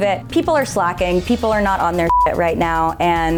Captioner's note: beep